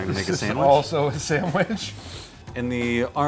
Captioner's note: laughing